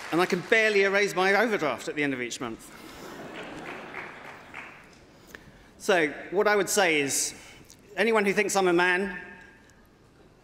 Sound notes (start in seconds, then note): 1.3 applause